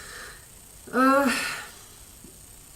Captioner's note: sigh